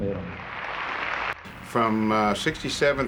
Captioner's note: audience cheering